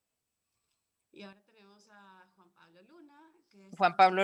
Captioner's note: speaking in a foreign language